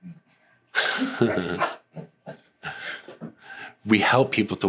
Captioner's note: laughter